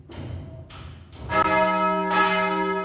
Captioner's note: bell ringing